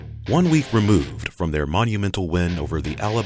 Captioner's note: voiceover